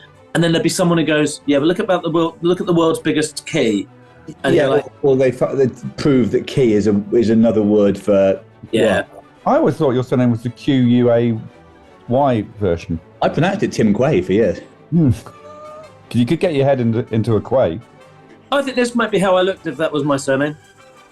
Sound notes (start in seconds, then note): 14.4 sniggering